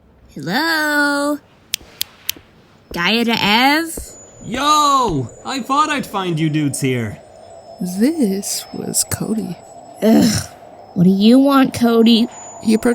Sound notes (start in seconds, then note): 1.7 snaps three times